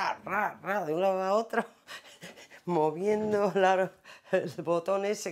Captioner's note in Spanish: Ríe